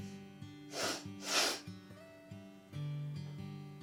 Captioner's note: sniffle